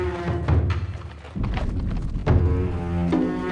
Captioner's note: none